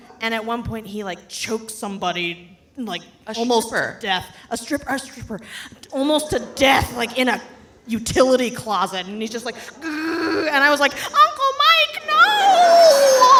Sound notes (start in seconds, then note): 10.1 straining